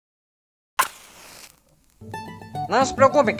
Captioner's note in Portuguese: Som de fósforo acendendo